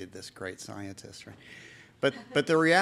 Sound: chuckle

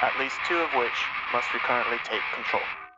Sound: screams

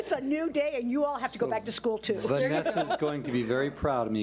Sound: laughs

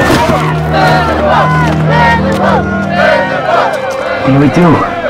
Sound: crowd

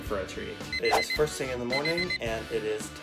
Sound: beeping

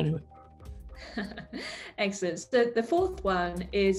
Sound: laughs

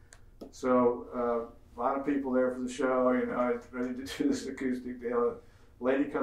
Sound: murmurs

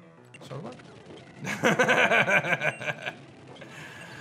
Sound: chuckles

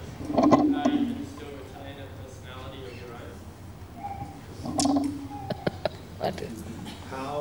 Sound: shri mataji laughs

